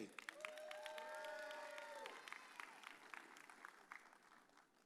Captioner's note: audience cheers